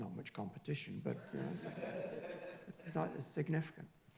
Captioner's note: laughing drowns out speaker